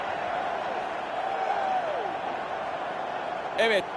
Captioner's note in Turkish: coşkulu tezahürat